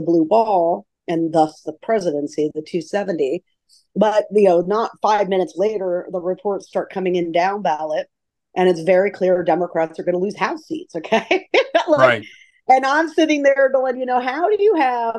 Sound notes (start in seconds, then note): 7.2 laughs